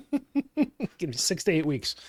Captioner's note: laughs